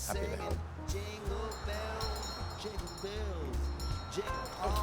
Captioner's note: oliver ringing bells